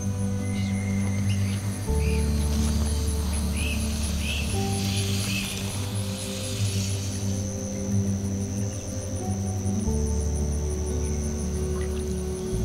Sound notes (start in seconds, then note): 1.8 late-afternoon insects and birds chirping